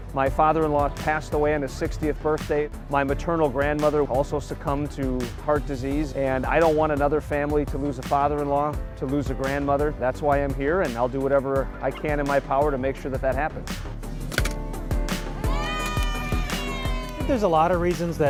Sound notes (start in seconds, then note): 15.3 crowd cheering